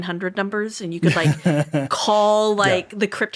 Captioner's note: laughing